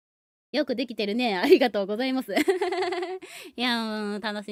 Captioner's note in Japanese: 笑い